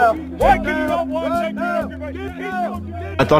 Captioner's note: soldiers chattering